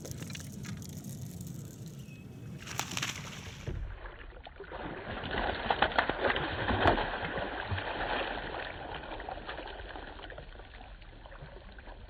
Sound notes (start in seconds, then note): 0.0 rod clicks; 2.4 water splashes